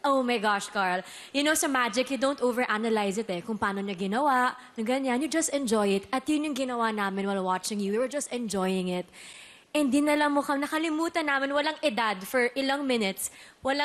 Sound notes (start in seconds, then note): none